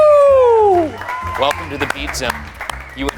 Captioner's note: crowd cheering